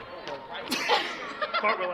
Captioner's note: laughter